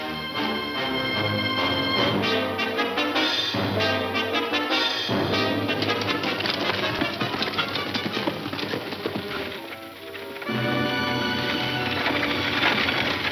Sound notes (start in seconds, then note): 4.9 hooves stomping; 9.7 suspenseful music